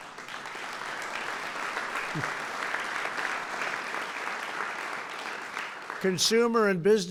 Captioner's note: applause